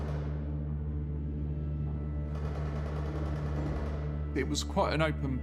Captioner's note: distant gun fires rapidly